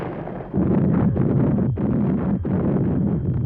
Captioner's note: gun roars